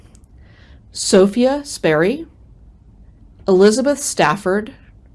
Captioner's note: none